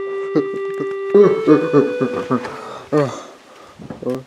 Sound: breathing heavily

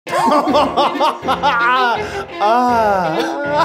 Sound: groaning

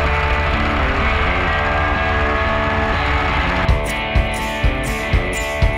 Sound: engines roaring

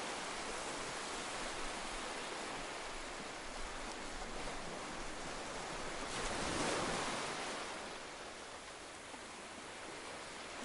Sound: sounds of ocean waves lapping on the beach

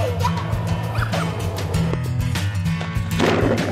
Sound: splashing

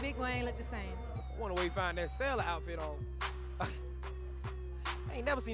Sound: laughs

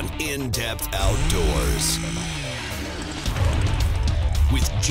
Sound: drilling

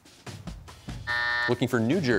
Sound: buzzer

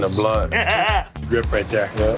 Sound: laughs

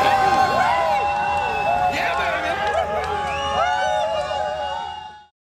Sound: crowd cheering continues

